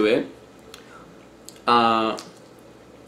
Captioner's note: chewing